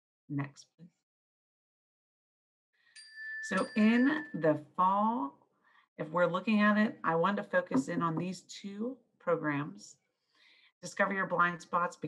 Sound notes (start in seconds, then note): 2.9 bell ringing